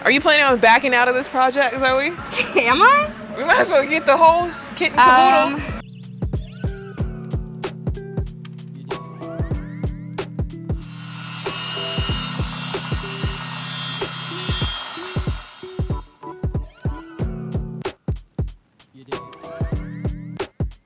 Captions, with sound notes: - Are you planning on backing out of this project Zoe? - Am I? - We might as well get the holes, kitten caboodle. (machine whirling) (upbeat music)